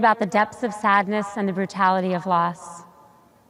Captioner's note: none